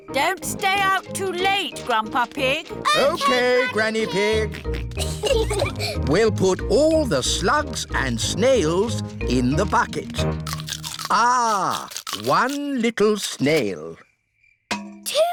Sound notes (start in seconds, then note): 5.1 peppa and george giggling